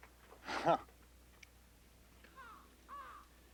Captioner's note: Tater chuckling